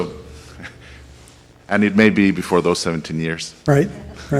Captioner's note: voiceover